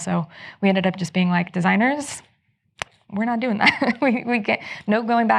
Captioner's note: chuckles